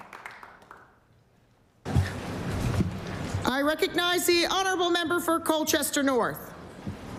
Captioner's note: applause